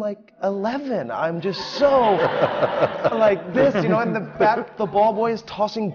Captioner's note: laughter